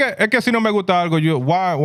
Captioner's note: speaking In Foreign Language